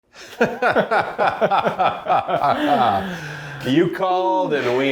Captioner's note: both laughing